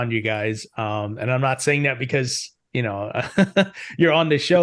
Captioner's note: chuckles